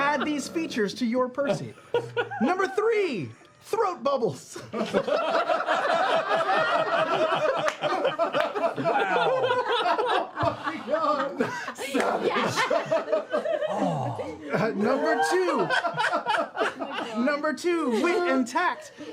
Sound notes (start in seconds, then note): 4.6 laughter; 9.7 laughter continues